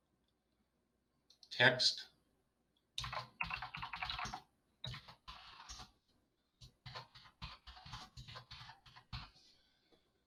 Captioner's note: typing